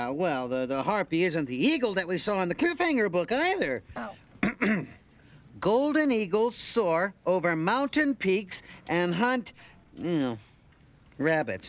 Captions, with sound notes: THAT WE SAW IN THE CLIFF HANGER BOOK EITHER. OH. ( clears throat ) "GOLDEN EAGLES SOAR OVER MOUNTAIN PEAKS AND HUNT"-- OH-- "RABBITS."